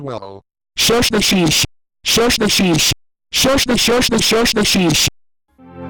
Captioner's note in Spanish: en voz alta